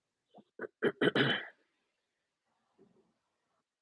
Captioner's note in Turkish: boğazını temizler